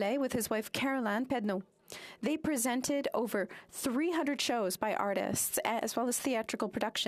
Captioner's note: speaking french